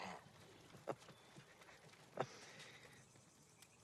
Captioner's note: laughs